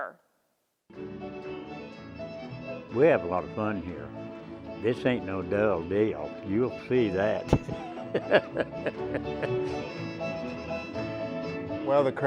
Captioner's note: laughing